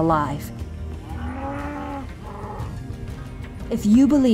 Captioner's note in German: Kuh muht